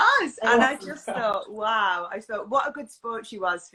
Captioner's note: laughs